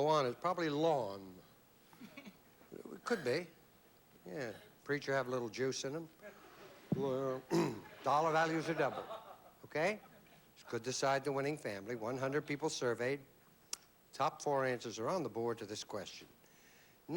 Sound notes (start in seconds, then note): 6.7 grurunts; 7.4 clears throat